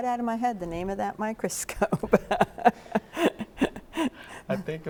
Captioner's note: chuckles